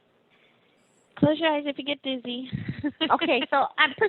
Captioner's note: laughing